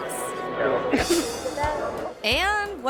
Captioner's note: coughs